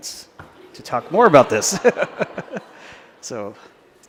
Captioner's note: laughter